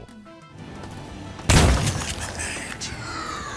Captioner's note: bang